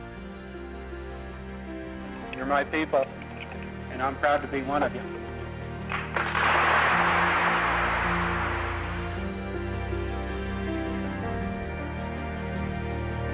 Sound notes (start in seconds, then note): 5.6 audience applauding; 8.1 gentle music